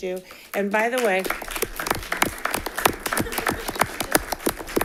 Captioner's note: audience applauding